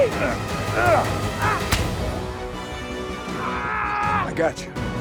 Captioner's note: Chef grunts; Tector yells